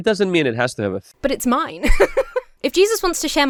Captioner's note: laughs